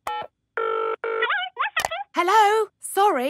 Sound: dials phone; on phone

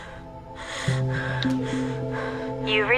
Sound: line trilling

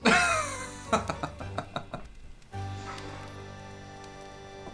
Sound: laughs

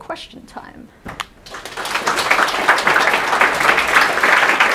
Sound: audience claps

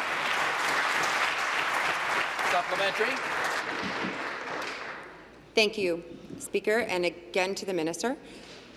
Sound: applause

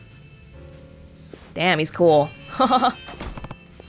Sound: chuckles

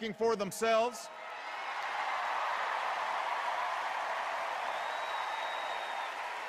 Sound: cheers and applause

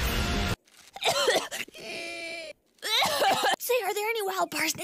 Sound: allergy coughs

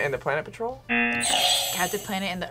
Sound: buzzer rings

